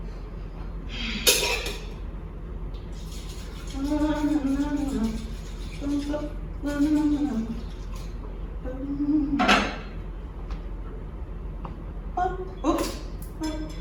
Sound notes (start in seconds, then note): 1.6 clattering; 4.0 humming to self